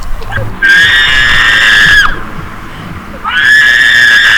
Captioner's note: screams